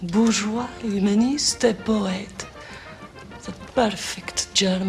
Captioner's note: speaking french